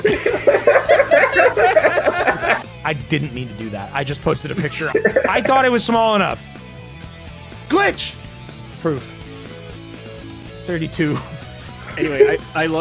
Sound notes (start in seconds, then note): 0.0 laughter; 4.5 erarg laughs